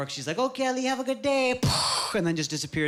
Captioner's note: imitating explosion